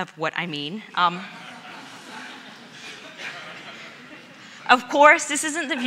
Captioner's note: audience laughs